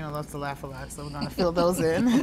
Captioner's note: laughs